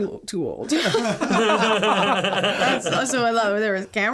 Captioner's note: all laughing